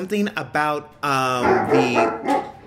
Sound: dog barks

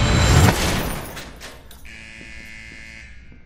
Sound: cell door buzzing

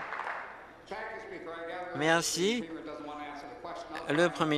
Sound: applause

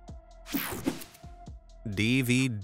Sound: screen whooshing

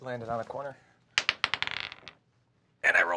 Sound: die clattering

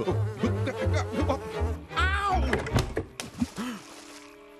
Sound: buzzing

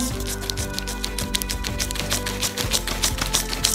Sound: eraser rubbing

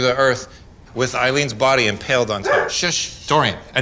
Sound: dog barks

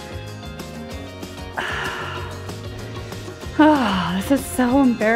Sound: sighs

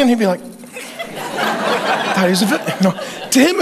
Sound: congregation laughing

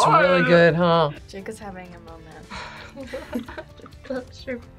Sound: both laugh

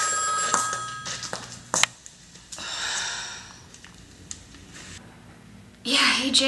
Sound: phone rings, lantern rattles; heels click, sigh

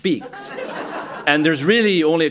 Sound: laughter

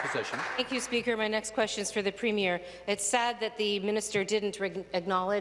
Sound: applause

